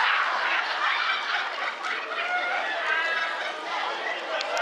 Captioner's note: laughter